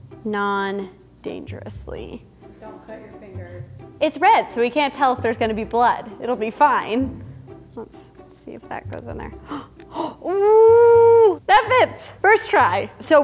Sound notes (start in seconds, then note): 9.4 gasping